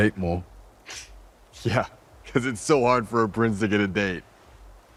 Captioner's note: chuckles